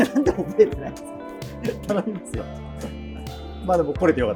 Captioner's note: laughing